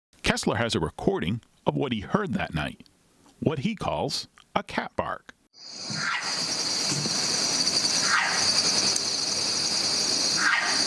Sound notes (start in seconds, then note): 5.9 cat barking